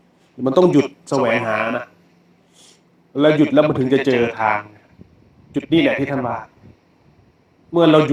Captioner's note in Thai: เสียงสูดหายใจ